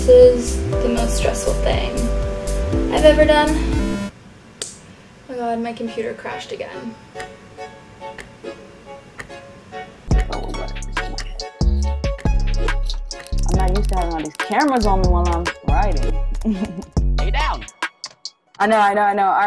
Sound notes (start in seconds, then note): 3.6 buzzer vibrating; 8.4 upbeat music; 16.4 chuckles